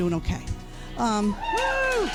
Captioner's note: crowd cheers